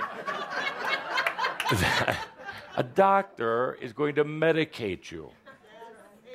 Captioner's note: laughter